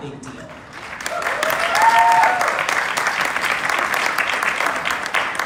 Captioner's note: clapping and cheering